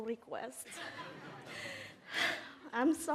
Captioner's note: audience laughs